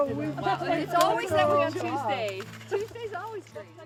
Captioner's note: nats chatter